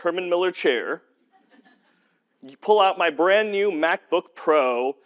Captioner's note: laugh